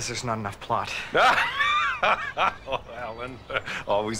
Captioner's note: forced laugh